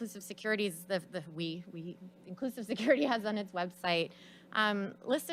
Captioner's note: laughs